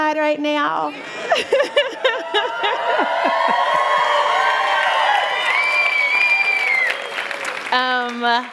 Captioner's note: applause; cheering